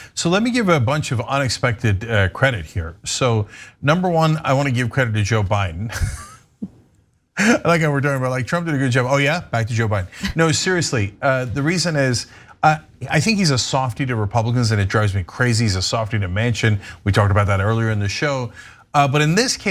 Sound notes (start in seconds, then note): 6.0 laugh